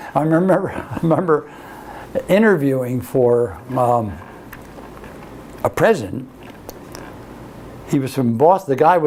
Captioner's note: laughs